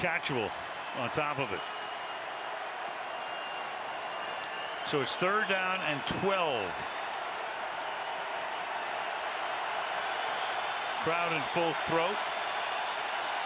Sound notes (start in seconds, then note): 7.2 crowd cheering